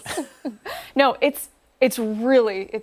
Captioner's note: laughter